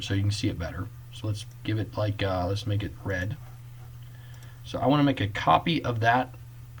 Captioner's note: click